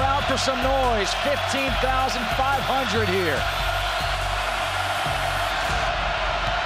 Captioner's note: crowd cheering